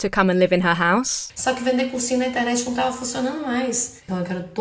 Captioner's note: speaking Portuguese